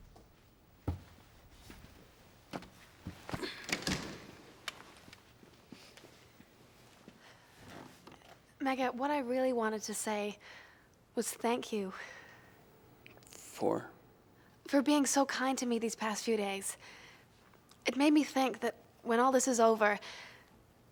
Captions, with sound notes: (door closing) Mega, what I really wanted to say was thank you. - For? - For being so kind to me these past few days. It made me think that when all this is over,